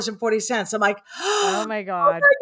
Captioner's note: gasps